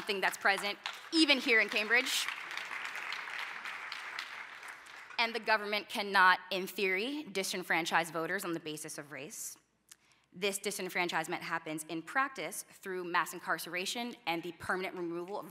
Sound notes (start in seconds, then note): 1.9 applause